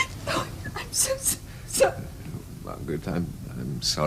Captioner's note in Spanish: Llora